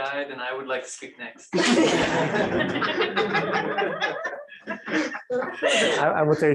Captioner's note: laughter